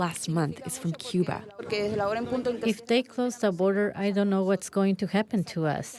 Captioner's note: through translator